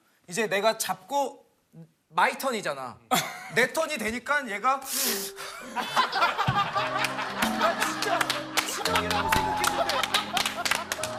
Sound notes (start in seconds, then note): 4.9 sob / Sobbing